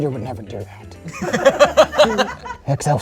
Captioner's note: group laughs